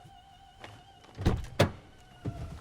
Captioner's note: door opens